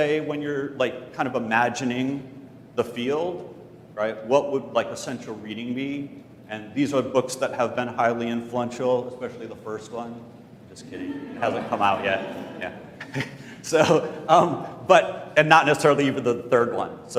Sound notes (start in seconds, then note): 12.7 laugh